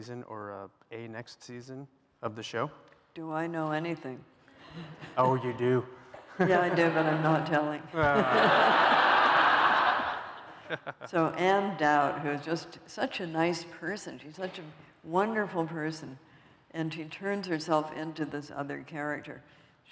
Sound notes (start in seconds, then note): 7.9 laughter